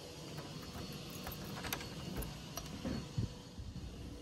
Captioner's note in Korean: 오픈상가여서 오전에 들리는 청소기 소리